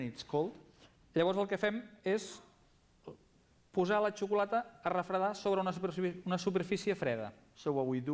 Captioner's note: non-english speech